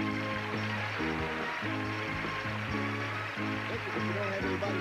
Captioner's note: audience applauding